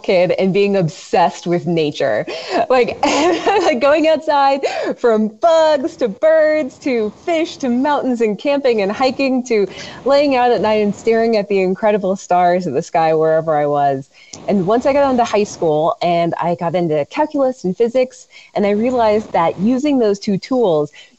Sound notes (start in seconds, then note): 2.3 laughs